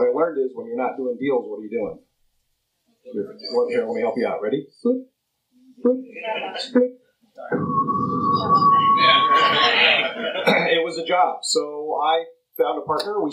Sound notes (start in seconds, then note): 7.5 whistles; 9.5 laughter